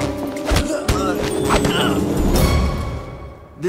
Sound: punching

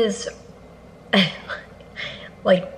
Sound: chuckling

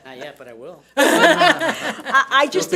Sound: audience laughs

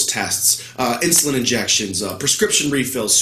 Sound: none

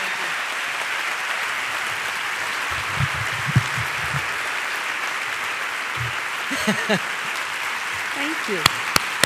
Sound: applause

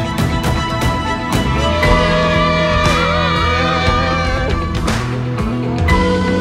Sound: cheering; upbeat music

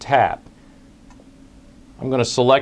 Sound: pause

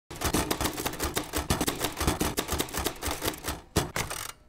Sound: typewriter clicking

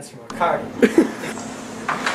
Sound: polish Laugh

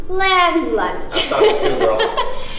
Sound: laughs

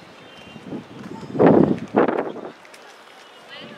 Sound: wind

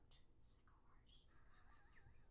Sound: whispers

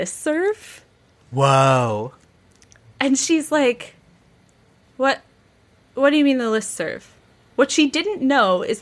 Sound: none

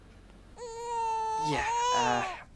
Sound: baby crying

